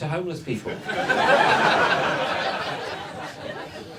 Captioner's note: audience laughs